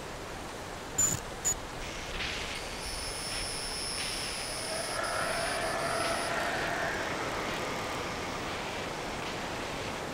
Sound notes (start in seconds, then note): 0.1 camera distortion and glitching; 2.9 strange growling in the distance